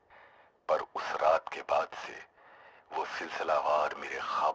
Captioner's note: radio